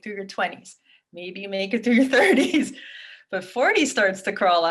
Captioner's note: chuckles